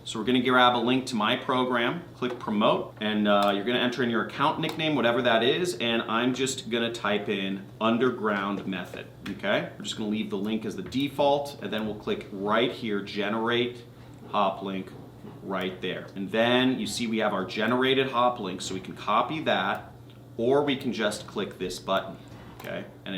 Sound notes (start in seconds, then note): none